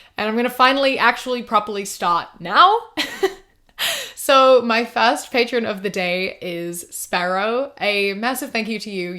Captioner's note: laughs